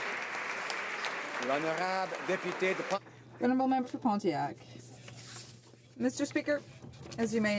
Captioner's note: some Applause